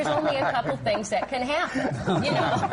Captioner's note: laughter